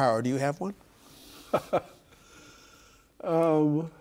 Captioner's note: laughing